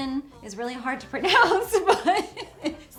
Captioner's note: laughs